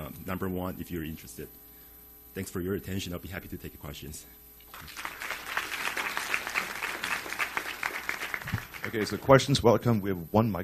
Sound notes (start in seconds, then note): 4.7 audience applauds